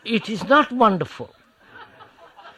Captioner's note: laughter